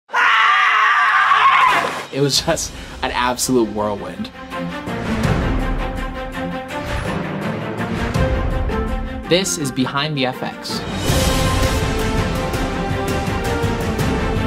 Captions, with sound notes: (man yelling) - It was just an absolute whirlwind. (dramatic music) - This is Behind The FX (dramatic music)